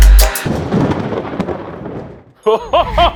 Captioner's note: thunder clapping